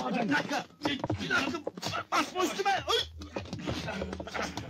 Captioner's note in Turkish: i̇ti̇şme sesleri̇ devam eder